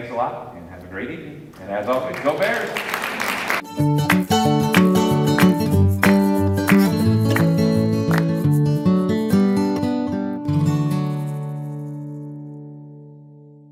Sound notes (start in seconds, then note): 1.8 applause